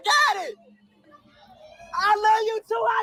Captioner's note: people shouting back